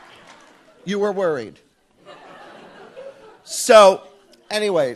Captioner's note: audience laughs